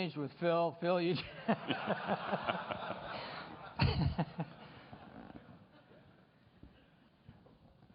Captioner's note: laughter